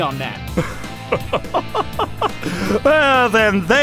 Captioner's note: arrogant laughter